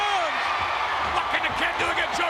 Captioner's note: audience cheers